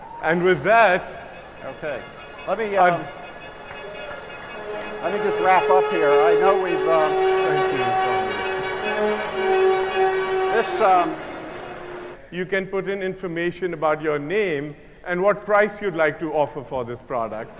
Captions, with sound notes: - And with that-- - Okay, let me just wrap up here, I know what you got. (dramatic music) (man murmuring) - And so you can put in information about your name and what price you'd like to offer for this product.